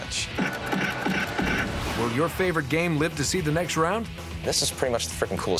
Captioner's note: punching